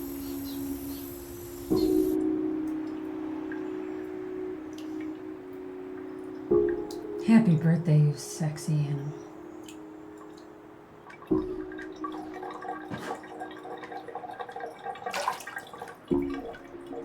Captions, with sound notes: - Happy birthday, sexy Annie. (water draining)